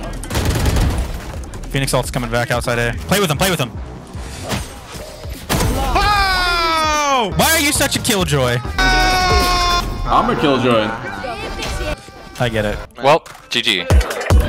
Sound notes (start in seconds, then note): 0.1 guns firing; 5.8 screaming; 8.7 screaming; 14.2 upbeat music